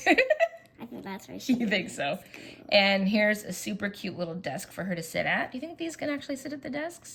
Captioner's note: laughs